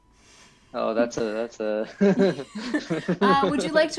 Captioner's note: laughs